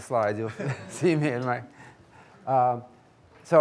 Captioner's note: laughs